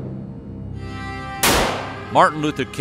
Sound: gunfire

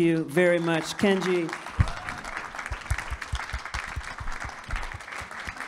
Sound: audience claps

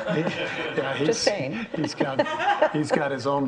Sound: audience laughing

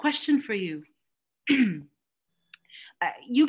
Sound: clears throat

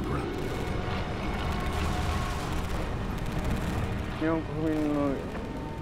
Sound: gunfire rattling; speaking in foreign language

